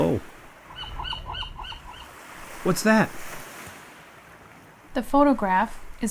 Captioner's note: bird call